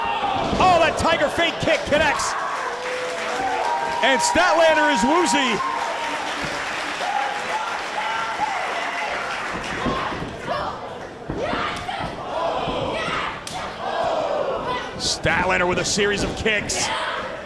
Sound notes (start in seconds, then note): 8.9 applause